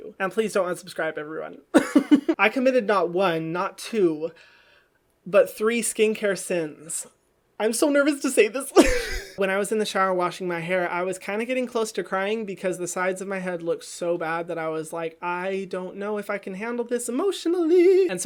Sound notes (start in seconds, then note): 8.8 laughs